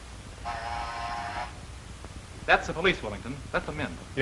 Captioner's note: buzz